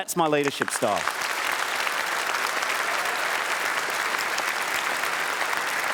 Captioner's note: applause